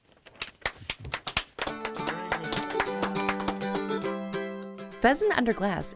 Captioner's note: audience claps; lively music